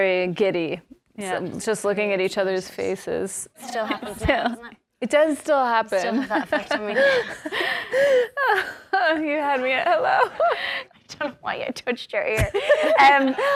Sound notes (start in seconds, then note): 6.1 laughs; 6.2 both laugh